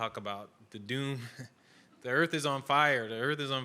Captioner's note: laughs